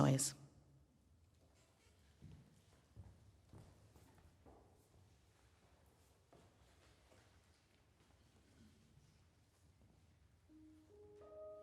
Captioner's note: silence, shuffling